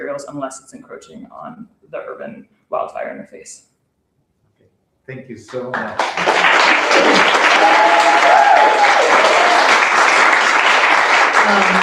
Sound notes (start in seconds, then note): 5.4 applause; 6.0 cheering